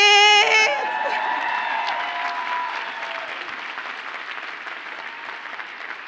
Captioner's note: audience cheers and applauds